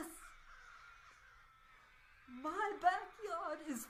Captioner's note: large group of crows cawing loudly and gleefully in the background